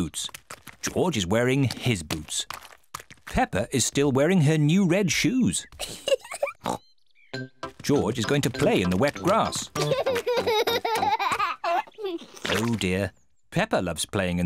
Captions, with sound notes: George is wearing his boots. Peppa is still wearing her new red shoes. (GIGGLES AND OINKS) George is going to play in the wet grass. (LAUGHING) Oh, dear. Peppa loves playing in the wet grass.